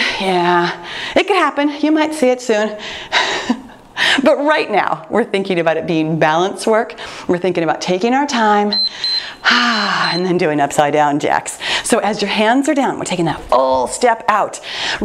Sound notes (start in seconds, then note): 8.6 timer beeps; 9.1 sighs